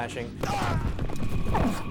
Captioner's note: grunting